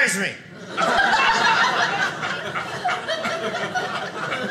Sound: audience laughing

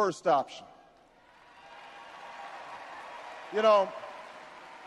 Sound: audience cheers and applauds

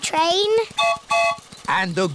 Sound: train whistle blows

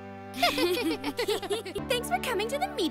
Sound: both laugh

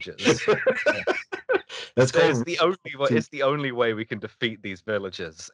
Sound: laughter

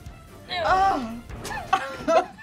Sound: gasps; laughs

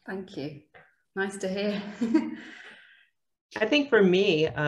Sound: laughs

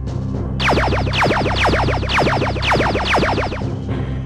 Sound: lasers firing

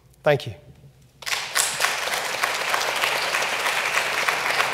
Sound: clapping

